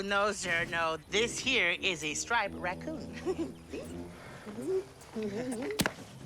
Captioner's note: chuckling